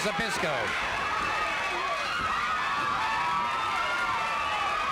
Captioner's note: crowd yelling